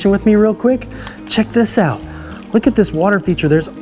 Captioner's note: water sloshing